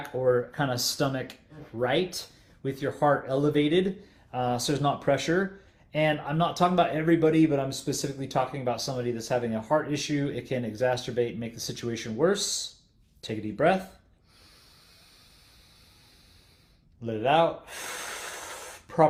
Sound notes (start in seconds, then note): 14.1 inhales deeply; 17.6 exhales sharply